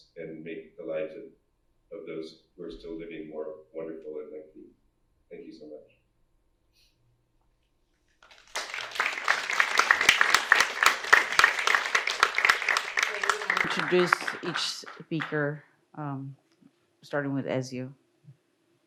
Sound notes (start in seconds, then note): 8.2 audience applauds